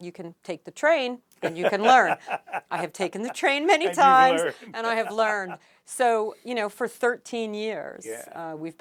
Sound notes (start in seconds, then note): 1.4 laughs; 5.1 laughing